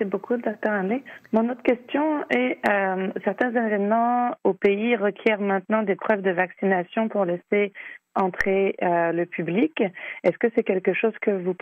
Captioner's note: speaking French